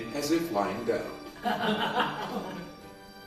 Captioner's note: laughter